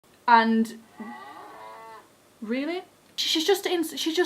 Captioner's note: interrupted by mooing